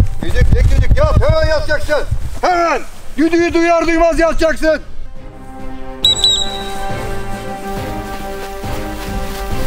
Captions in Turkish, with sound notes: +Düdük, tek düdük! Yat, hemen yatacaksın! +Hemen! +Düdüğü duyar duymaz yatacaksın! +[DÜT DÜT]